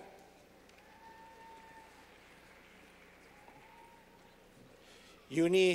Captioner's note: clapping